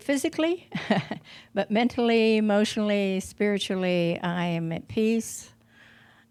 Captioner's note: she chuckles